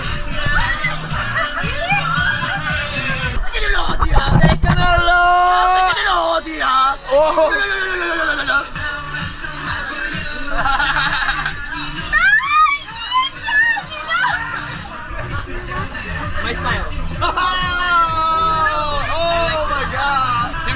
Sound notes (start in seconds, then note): 12.0 screaming because it's so cool